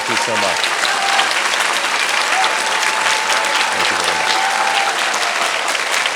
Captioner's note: audience cheering and clapping